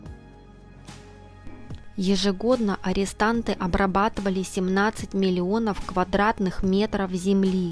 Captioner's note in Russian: закадровый голос